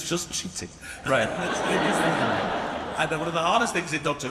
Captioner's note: audience laughs